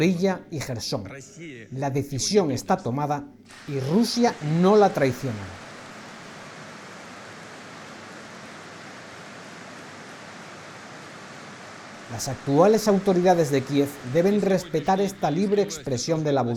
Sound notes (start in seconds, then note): 5.2 applause